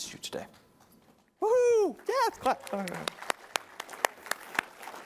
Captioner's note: applause